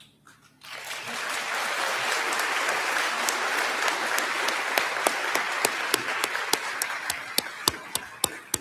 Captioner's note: applause